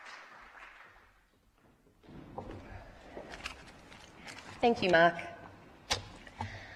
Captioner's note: applause